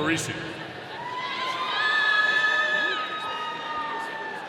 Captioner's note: audience cheering